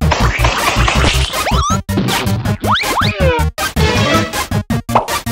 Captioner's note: electronic music; dough squishing